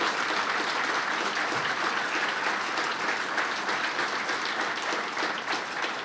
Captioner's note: applause